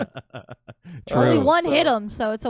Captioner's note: laughing